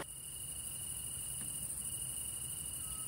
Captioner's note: crickets chirping